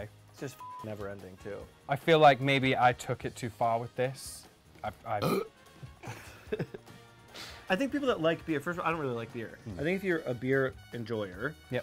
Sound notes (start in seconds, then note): 0.5 beep; 5.1 burps; 6.0 laughing